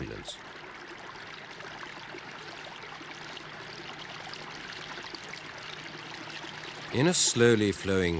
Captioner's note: running water